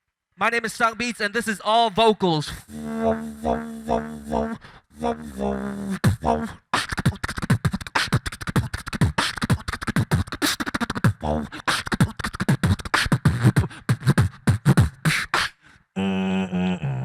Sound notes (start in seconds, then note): 2.6 beatboxer performs